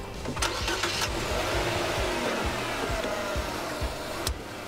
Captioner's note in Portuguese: carro ligando